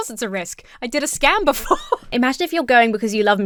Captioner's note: laughs